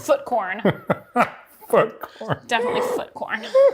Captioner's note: laughs